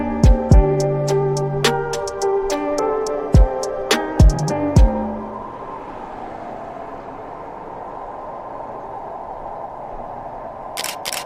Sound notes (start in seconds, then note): 6.1 police siren